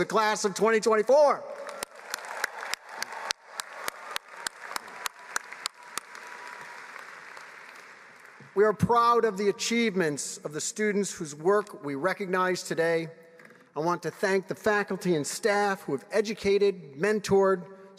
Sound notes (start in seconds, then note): 5.3 applause